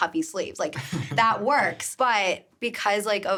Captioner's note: chuckling